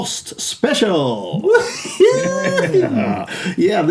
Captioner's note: laughter